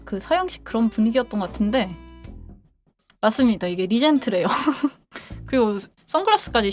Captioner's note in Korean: 웃음